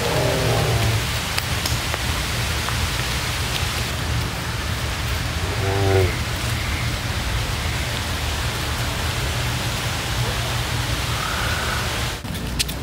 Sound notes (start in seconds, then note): 0.0 waterfall crashing; 0.0 animals groaning; 5.3 birds calling